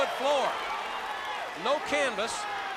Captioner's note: crowd cheering